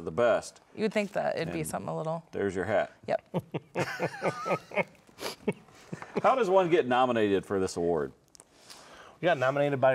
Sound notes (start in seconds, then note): 3.7 everyone laughs